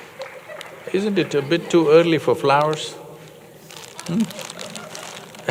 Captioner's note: laughs